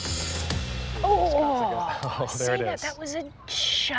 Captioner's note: chuckles